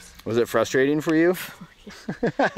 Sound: laughing

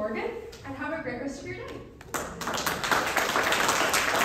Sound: applause

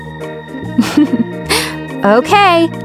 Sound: laughing

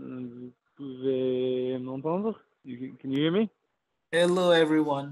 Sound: speaking french

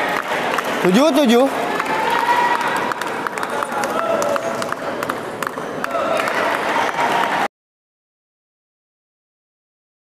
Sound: applause

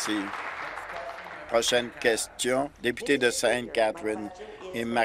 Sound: applause

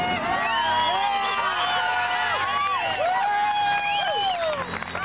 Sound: crowd cheering

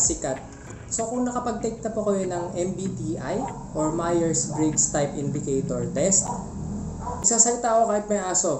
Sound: bork bork bork bork bork bork bork bork

